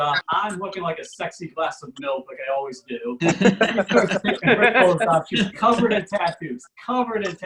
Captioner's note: audience Laughs